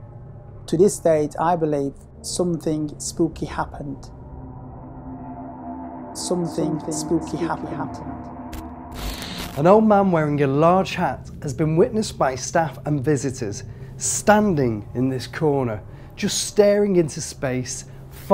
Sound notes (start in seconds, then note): 8.9 static crackling